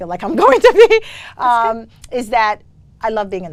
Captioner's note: laughs